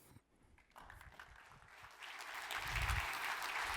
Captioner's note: applause